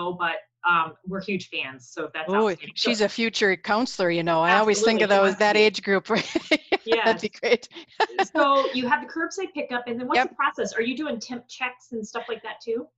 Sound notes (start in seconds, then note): 6.2 laughing